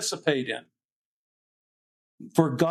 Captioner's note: silence